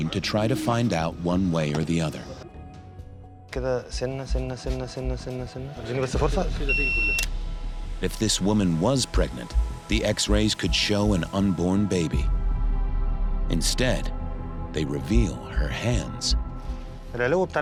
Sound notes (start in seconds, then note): 3.9 machine beeping; 3.9 speaking foreign language